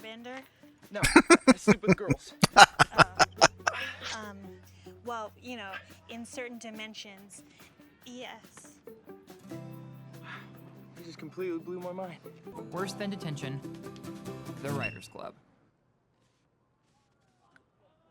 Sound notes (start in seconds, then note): 1.0 chuckling; 1.0 laughing